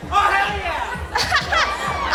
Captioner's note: laughs